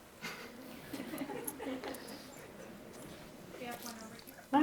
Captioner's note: attendees chuckling